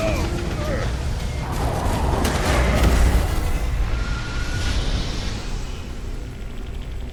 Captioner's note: machine roaring; creature roaring; man groaning; laser blasting